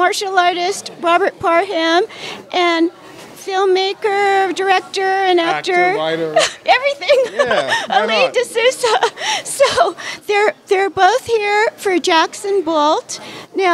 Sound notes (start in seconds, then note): 7.0 laughter